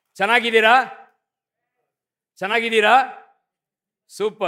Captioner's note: speaking hindi